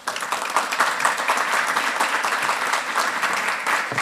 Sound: applause

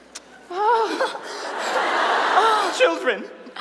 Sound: audience laughs

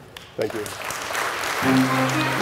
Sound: audience applauding; bright music

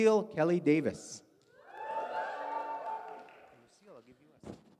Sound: audience cheers

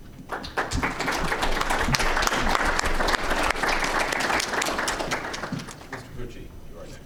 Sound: audience applauding

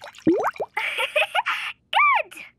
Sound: giggling

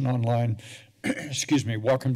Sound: clears throat

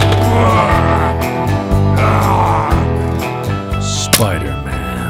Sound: growling

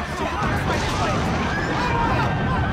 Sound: scary music; thunder; screaming

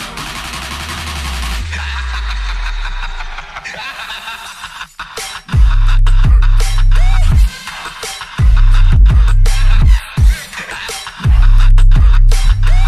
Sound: laughs

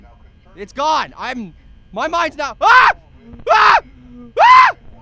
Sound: frightened yelling

